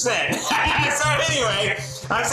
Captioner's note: laughs